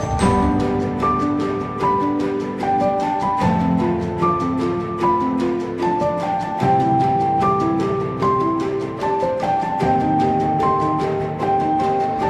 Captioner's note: applause